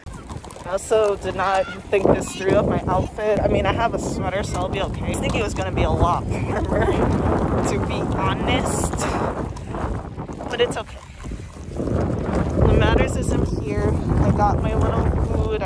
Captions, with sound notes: Also did not think this through of my outfit. I mean I have a sweater, so I'll be okay. I was thinking it was gonna be a lot warmer [giggles]. To be HONEST. [wind blowing] But, it's okay. What matters is I'm here. I got my little food –